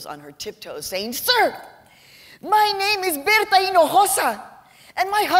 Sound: with mexican accent

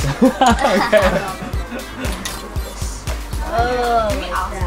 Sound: laughter

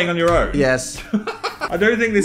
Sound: laughs

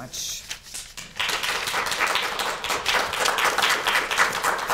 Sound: students clapping

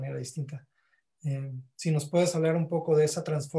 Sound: speaking Spanish

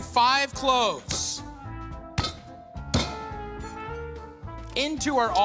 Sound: bangs

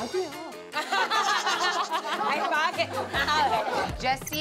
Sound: bickering

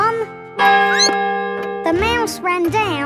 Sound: clock chimes; squeaks

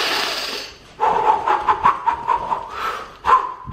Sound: rapid deep breaths

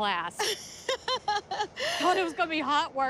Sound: laughs

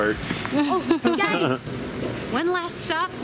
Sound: laughs

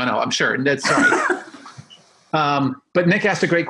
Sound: both laughing

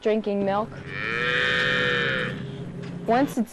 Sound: cow mooing

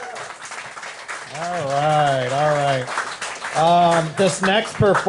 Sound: applause

